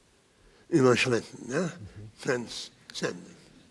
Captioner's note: speaking in foreign language